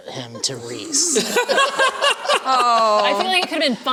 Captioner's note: laughter